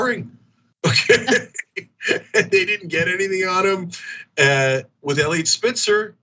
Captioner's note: laugh